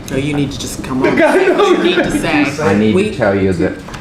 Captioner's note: laughter